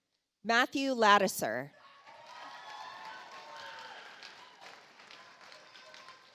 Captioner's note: audience applauds